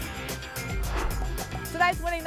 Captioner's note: whoosh